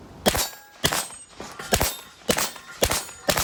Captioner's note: gun bangs